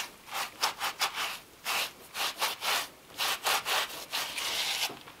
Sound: sponge scratching

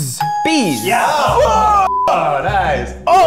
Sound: all exclaiming

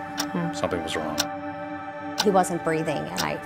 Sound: clock ticking

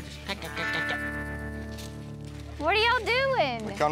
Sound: imitates chihuahua barking; footsteps

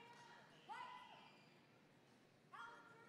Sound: none

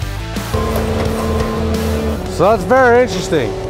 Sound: machine drilling

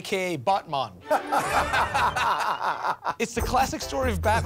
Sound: both laugh

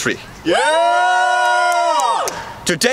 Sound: army cheering

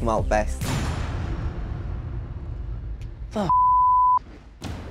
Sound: dramatic air whoosh; beep

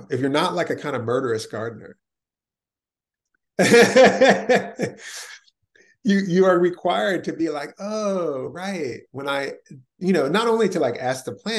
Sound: laughs

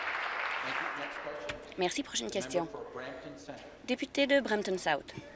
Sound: applause

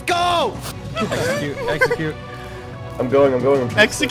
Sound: laughs

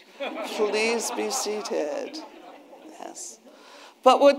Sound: attendees laughing

